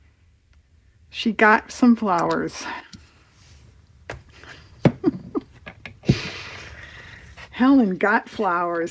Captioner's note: laughs